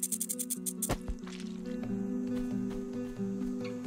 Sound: solemn music; foot step; light harp music

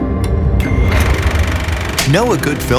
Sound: projector clicks

